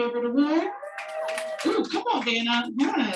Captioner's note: audience cheering